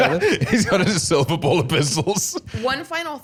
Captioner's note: laughing